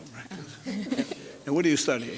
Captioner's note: chuckles